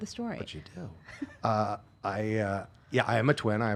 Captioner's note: laughing